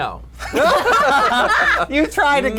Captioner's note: all laugh